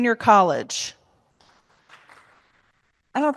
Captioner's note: applause